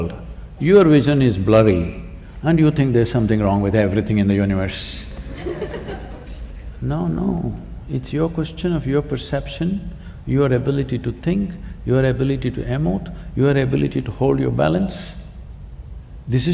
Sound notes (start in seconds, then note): 5.1 laughter